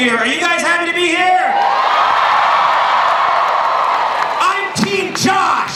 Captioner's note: crowd cheering